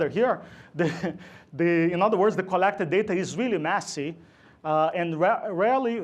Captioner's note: laughs